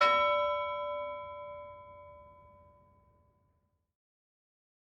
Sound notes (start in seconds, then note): 0.0 bell ringing